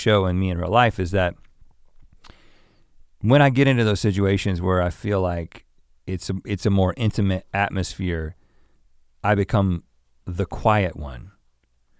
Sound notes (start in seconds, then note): none